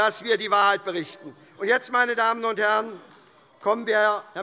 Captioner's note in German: Beifall bei Abgeordneten der SPD